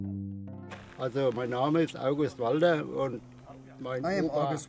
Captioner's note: speaking German